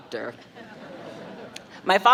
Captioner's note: crowd laughing